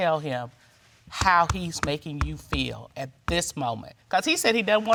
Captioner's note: bangs table